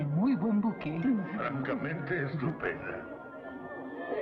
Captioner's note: patrons Chattering